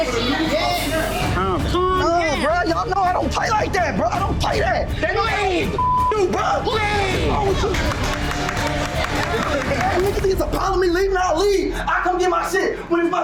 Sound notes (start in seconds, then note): 5.8 beep; 7.2 patrons applauding; 8.1 dramatic music